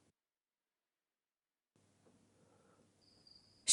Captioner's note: crickets chirping